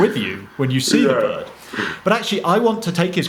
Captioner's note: chuckles